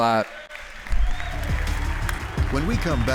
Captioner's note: applause